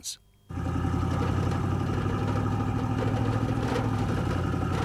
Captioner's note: engines roaring